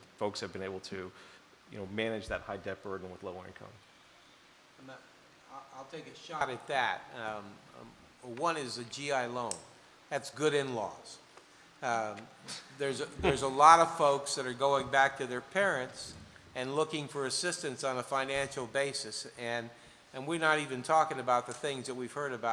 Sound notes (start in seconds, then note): 12.3 laughter